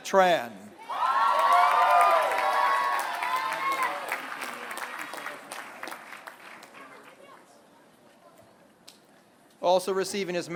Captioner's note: applause